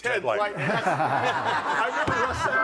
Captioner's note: audience laughing